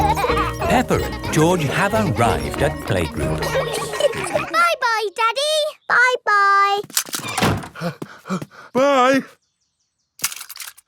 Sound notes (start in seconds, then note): 4.6 snorts; 7.7 panting